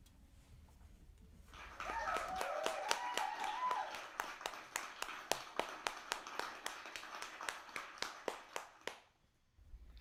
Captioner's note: applause and cheers